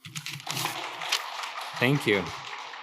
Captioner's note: audience applauding